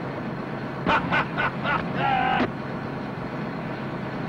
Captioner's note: Donny laughing